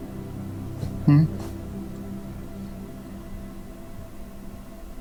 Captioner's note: victim moans